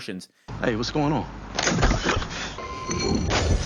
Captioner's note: choking noises; vase shattering